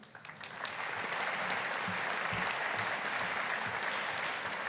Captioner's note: audience applauding